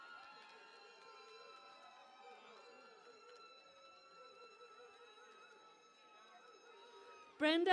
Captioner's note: cheering and Applause